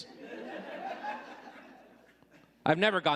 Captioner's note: audience laughing